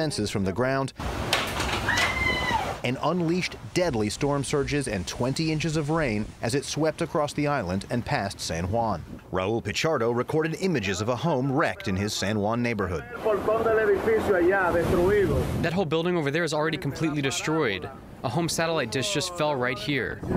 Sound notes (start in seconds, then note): 14.3 through translator